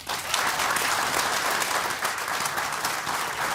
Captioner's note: applause